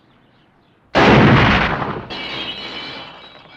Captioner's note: gunshot and glass shattering